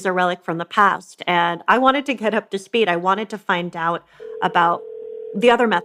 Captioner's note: A phone rings